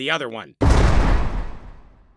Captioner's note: jail bars slam